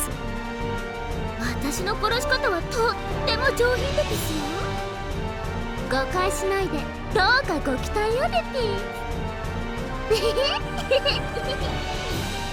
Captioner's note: giggle